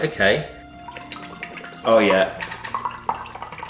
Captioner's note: drink flowing